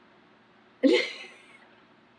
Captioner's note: laughs